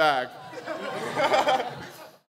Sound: audience laughs

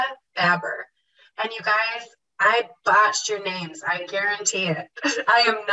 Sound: laughs

